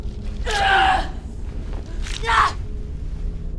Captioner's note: Kali groaning